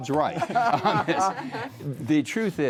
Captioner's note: laughter